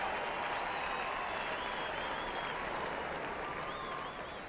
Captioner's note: speaking French; cheering; applause